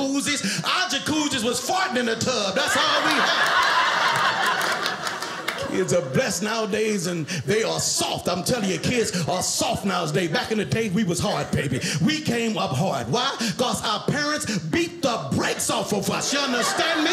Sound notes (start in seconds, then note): 3.7 audience laughing